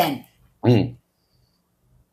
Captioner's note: clears throat